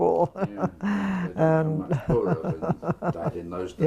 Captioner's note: laugh